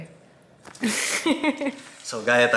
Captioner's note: giggles